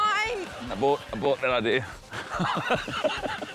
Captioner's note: laughs